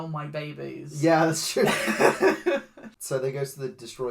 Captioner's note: laughs